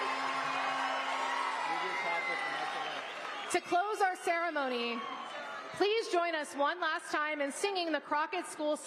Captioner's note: applause